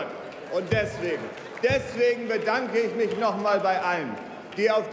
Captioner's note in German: Beifall bei Abgeordneten der SPD